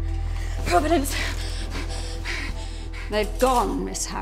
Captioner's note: gasping